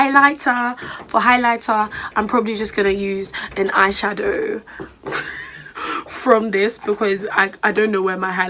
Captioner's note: laughs